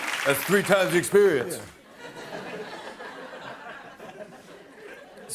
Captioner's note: laughter